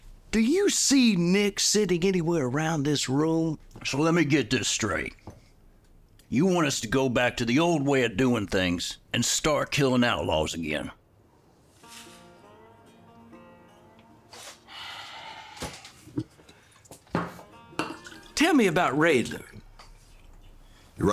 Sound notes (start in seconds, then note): 11.8 somber Western music; 14.5 sighs